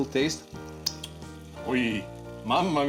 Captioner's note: lips smacking